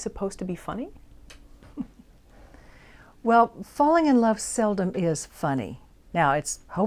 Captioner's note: laughs